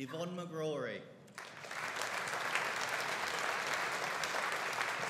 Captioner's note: audience applauding